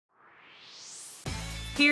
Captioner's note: swoosh